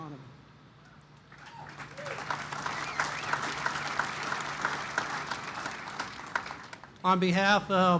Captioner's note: applause